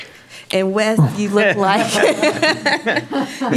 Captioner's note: laughs; panel laughs